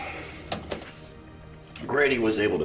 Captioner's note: keys clicking